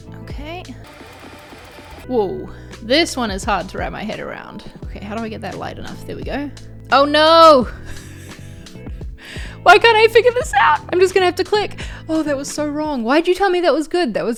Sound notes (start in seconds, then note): 0.7 tape fast-forwarding; 7.9 laughs